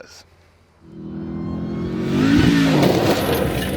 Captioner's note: engine whirring; dirt rustling